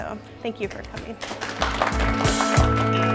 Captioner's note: crowd applauding; acoustic music